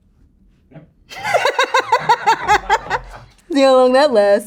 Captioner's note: Raven-Symone laughing